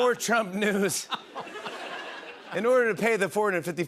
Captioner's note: laughter